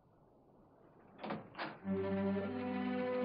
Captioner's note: door opens